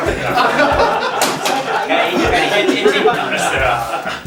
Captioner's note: laughs